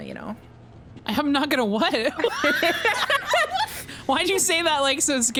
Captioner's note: both laugh